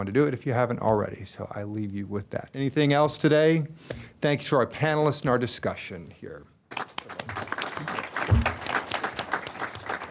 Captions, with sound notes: if you haven't already, so I leave you with that. Anything else today? Thank you to our panelists and our discussion here. >> [APPLAUSE]